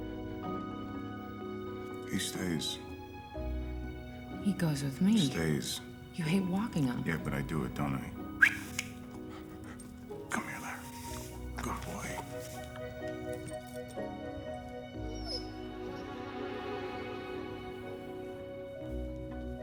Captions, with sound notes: He stays. - He goes with me. - Stays. - You hate walking him. - Yeah, but I do it, don't I? - [whistles] - [snaps fingers] Come here, Lar. Good boy. [dog whines]